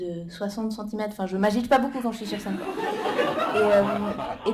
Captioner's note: laughter